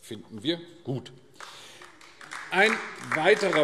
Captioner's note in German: Beifall AfD